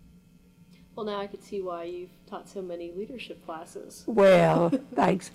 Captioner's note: laughs